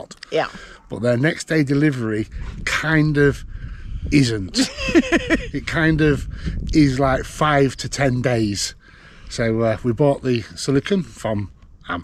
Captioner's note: laughter